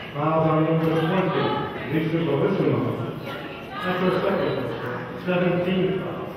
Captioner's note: murmurs